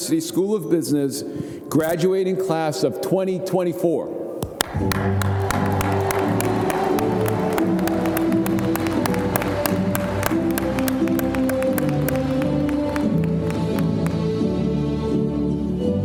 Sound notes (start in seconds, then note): 4.5 audience applauding; 4.8 bright music